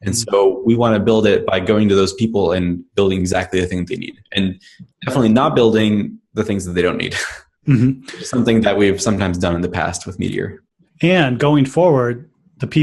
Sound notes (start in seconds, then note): 7.6 laughs